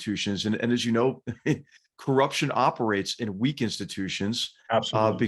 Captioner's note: laugh